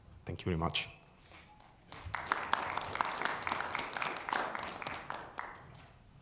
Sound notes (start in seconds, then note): 1.8 audience applauding